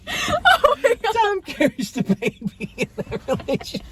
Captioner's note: more laughter